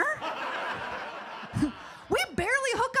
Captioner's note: audience laughs